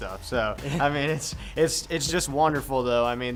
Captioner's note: chuckling